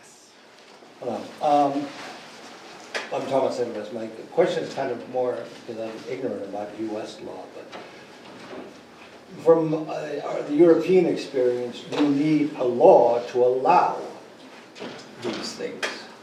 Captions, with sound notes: (man speaking) - The question's kind of more 'cause I'm ignorant about U.S. law. But from the European experience you need a law to allow the mistakes.